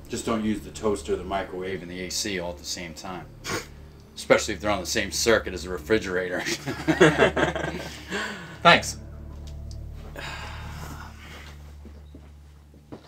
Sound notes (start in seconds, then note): 6.4 laughing; 9.8 sighing